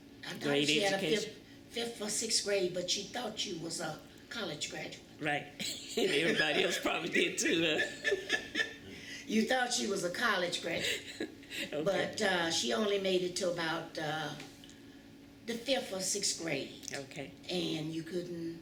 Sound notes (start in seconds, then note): 8.5 laughter